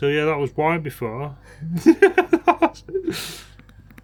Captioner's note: laughter